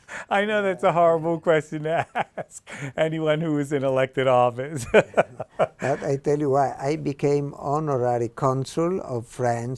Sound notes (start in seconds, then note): 2.1 laughs